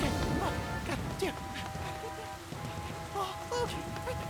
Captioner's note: panicked Puffing